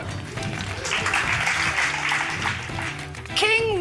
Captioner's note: applause